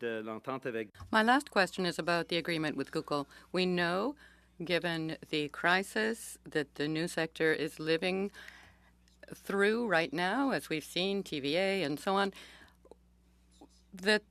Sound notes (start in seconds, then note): 8.5 speaking French